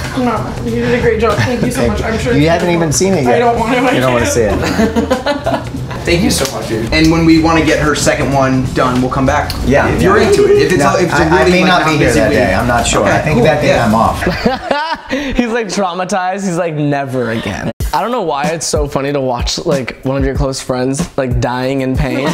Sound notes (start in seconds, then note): 5.8 all laugh; 14.2 laughs